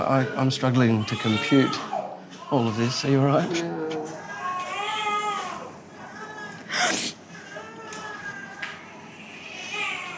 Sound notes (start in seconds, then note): 6.0 sobbing